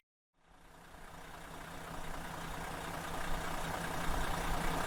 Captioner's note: engine humming